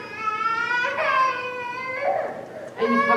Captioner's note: baby cries in audience